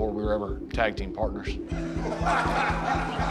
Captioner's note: laugh